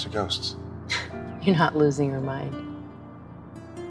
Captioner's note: laughs